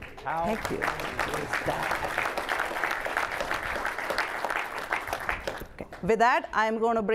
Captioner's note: applause